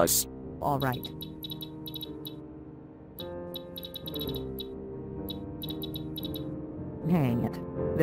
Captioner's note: typing